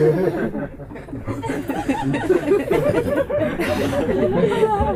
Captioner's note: laughter